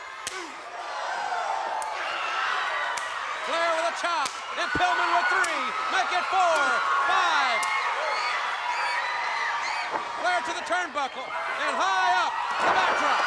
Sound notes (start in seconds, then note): 0.1 crowd clamoring; 0.2 blows thudding; 9.7 blows thudding